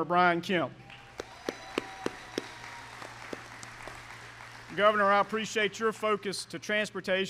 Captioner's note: applause